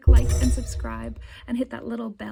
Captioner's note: high frequency chimes